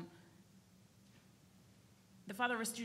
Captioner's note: none